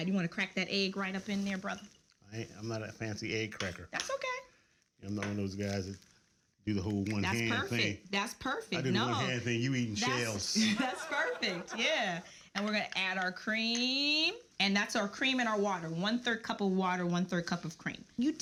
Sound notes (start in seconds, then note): 10.5 audience laughs